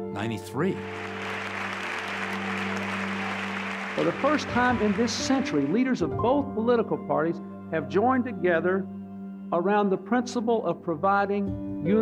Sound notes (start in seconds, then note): 0.8 clapping